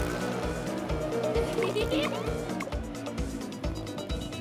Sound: laughing

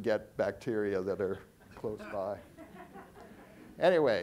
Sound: audience chuckling

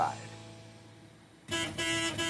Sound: horn

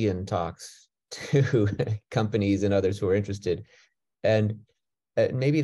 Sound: chuckles

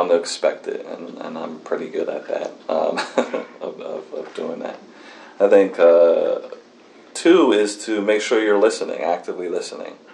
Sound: laughs

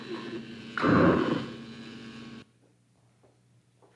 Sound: Donal growls

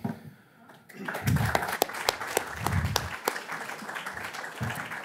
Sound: audience applauding

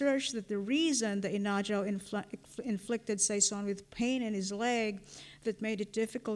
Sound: non-english

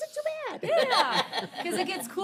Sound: members laughing

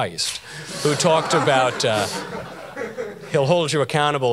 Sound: audience laughter

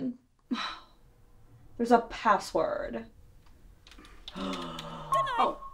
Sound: sigh; distraught sigh

